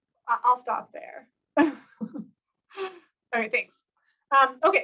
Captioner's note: laughter